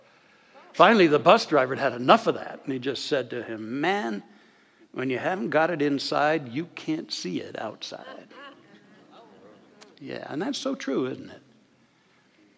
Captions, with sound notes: Finally, the bus driver had had enough of that. He just said to him, ‘Man, when you haven’t got it inside, you can’t see it outside. [audience soft laughter] Yeah. That’s so true. Isn’t it?